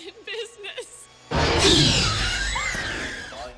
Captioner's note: Ellie screams; velociraptor cries